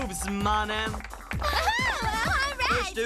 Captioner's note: cheering